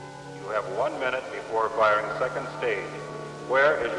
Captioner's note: man on PA